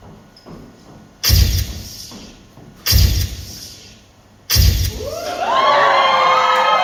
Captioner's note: camera flashbulb sound effects